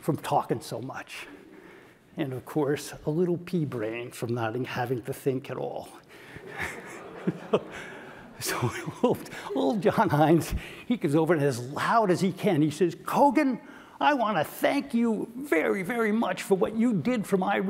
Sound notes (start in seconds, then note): 6.3 laugh